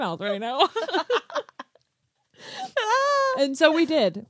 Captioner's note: laughs